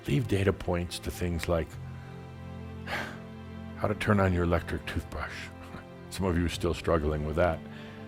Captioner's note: chuckle